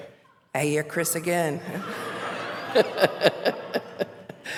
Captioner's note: laughter